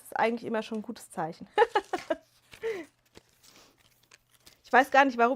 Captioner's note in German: gelächter